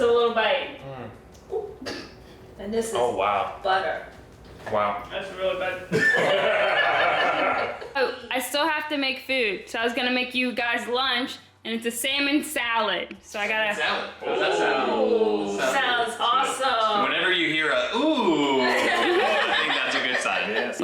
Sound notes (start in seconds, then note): 5.9 laughing